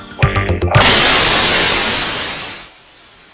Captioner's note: music stops, TV static sounds